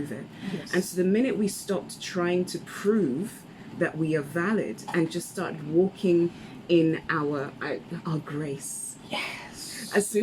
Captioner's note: whispers